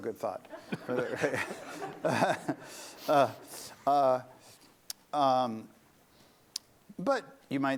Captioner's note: laughter